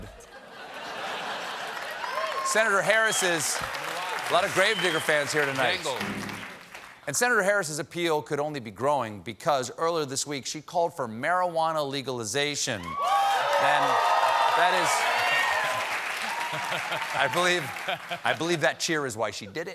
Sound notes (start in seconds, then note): 0.1 laughter; 1.5 applause; 12.8 cheers and applause